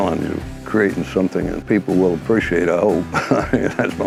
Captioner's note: laughs